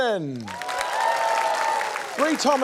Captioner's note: cheering, applause